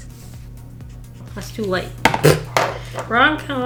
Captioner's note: laughs